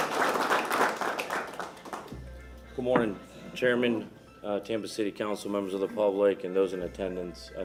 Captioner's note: applause